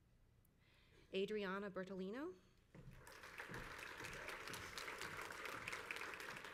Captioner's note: crowd applauds